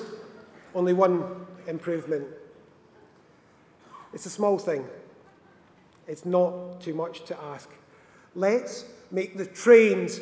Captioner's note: laughter